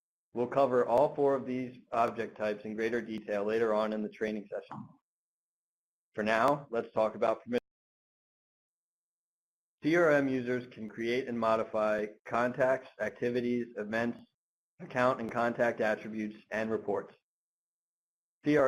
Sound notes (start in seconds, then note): 8.8 audio interrupts